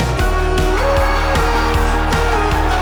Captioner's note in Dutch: publiek juicht